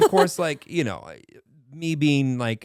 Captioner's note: laughing